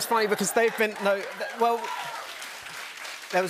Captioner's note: cheers and applause